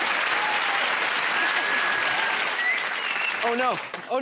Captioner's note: applause; whistles